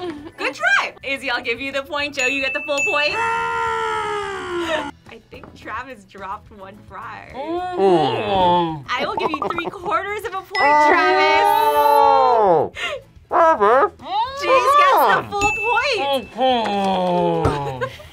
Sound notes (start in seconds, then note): 3.9 victorious roar; 7.7 groans; 17.3 groans